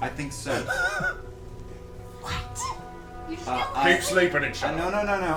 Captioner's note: whispers